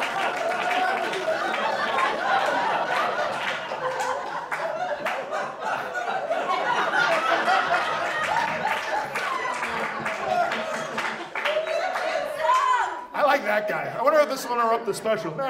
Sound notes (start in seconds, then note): 13.1 audience laughs; 13.1 audience applauds